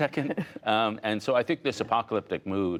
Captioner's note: laughter